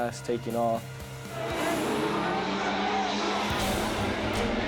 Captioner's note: engines roar